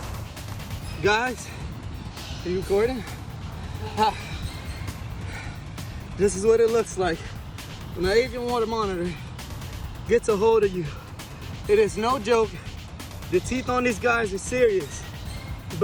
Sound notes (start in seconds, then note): 4.3 exhales